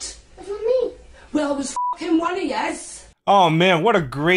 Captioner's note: beep